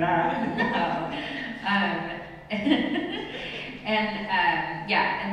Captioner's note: laughs